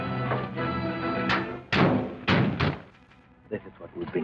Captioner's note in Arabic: صوت أبواب السيارة